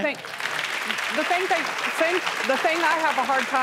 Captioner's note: audience claps